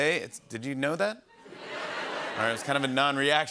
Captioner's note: scattered reaction